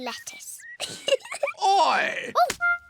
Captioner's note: giggles